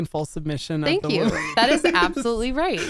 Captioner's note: laughs